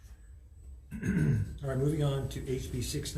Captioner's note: clears throat